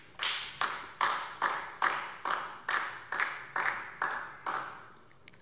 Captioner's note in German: Beifall DIE LINKE